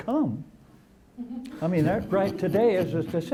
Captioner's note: laughter